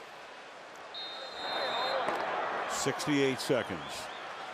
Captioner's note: whistle